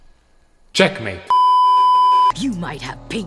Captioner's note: beeeeeep